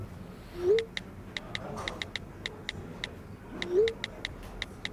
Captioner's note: phone texting